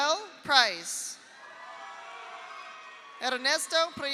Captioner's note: audience applauds; audience cheers